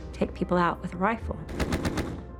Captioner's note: gunfire